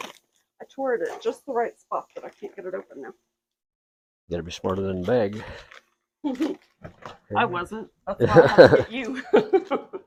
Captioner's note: laughs